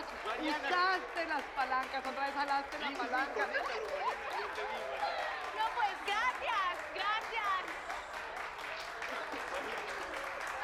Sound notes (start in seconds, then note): 3.5 Risas y aplausos